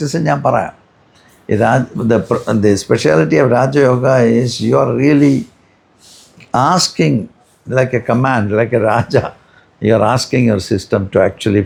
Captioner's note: snorts